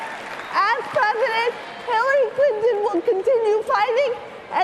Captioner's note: cheering and applause